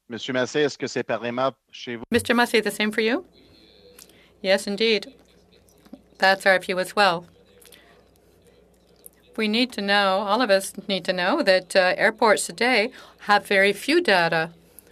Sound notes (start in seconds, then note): 4.9 speaking French